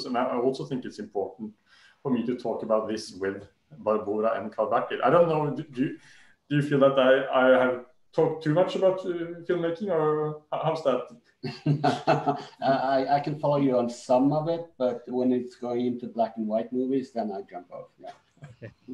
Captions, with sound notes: And I also think it's important for me to talk about this with Barbora and Karl-Bertil. I don't know. Do you feel that I have talked too much about filmmaking? Or how is that? [LAUGHS] I can follow you on some of it. But when it's going into black and white movies, then I jump out there.